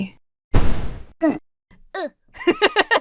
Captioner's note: rocket whooshes; character moans; imitates character; laughs